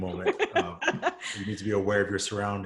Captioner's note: laughs